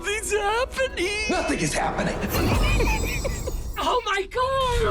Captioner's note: Blue laughing